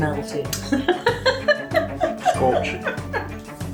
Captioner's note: laughter